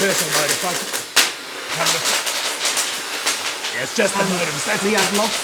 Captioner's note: electricity cracking